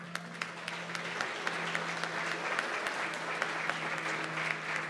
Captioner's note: applause